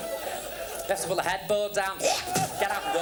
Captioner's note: imitates spitting